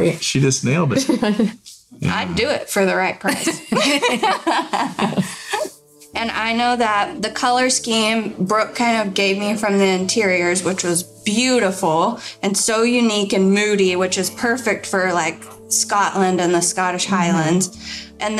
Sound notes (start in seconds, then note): 3.3 laughing